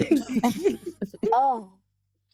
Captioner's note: laughing